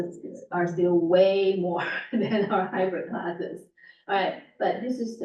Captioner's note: laughs